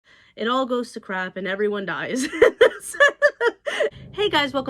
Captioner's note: laughs